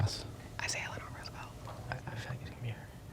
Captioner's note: whispering